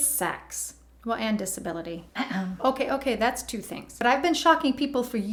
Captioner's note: eh-hem